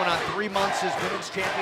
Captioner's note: fans chanting